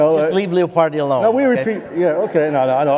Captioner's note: laughter